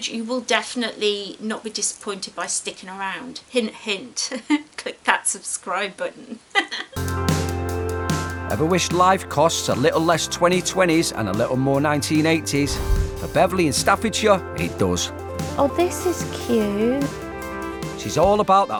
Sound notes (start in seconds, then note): 6.4 giggles